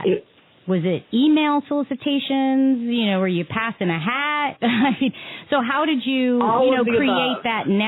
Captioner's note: laughter